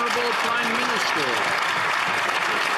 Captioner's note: some Applause